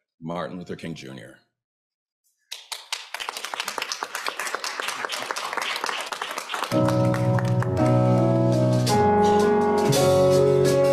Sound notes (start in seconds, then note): 2.5 audience applauds; 6.0 uplifting gospel music